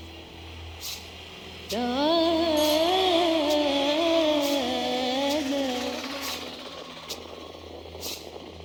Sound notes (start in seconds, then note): 1.7 motorbike revving